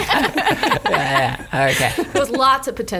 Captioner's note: laughs